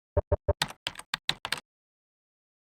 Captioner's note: typing noises